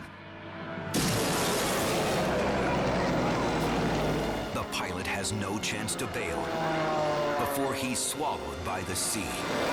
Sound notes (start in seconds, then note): 1.5 engines roar